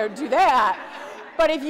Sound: audience laughs

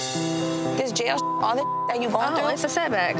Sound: beep

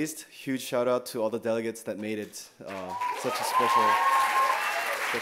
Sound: cheers

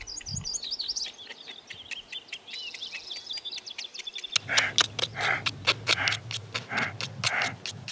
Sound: chiseling noise

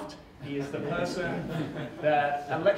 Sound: audience chuckles

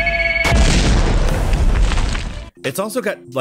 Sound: grenade explodes

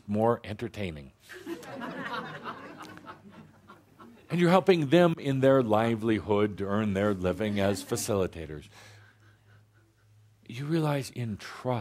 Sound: laughter

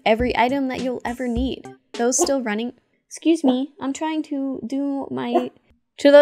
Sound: bark

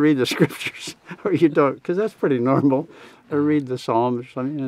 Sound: laughs

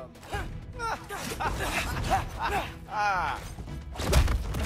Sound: laughs

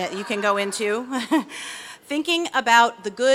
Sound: laughs

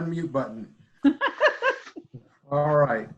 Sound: laughs

